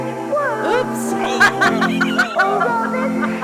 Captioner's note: laughs